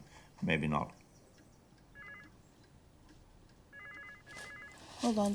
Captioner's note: phone ringing